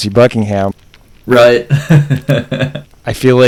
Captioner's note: laughs